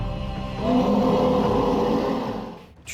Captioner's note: roars